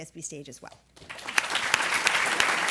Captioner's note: applause